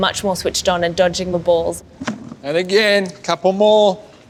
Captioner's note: none